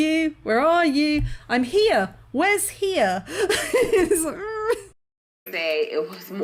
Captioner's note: laughing